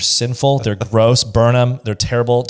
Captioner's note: laughs